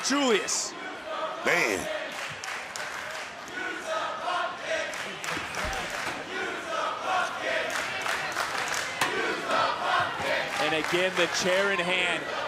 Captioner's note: crowd chants "use the bucket"